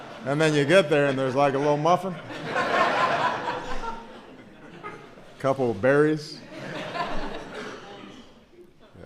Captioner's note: laughter; laughter